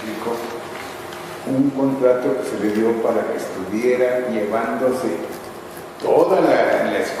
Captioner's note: none